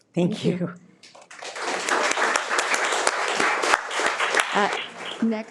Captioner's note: people applauding